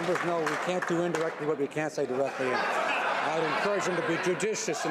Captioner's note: some Applause